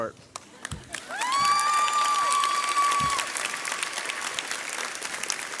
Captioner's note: graduates cheer